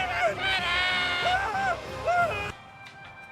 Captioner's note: screaming